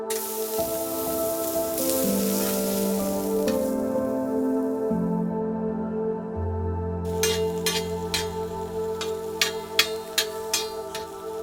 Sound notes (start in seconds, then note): 0.0 oil sizzling; 3.2 ambient music; 7.1 metal clanging